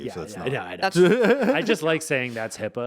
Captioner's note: laughing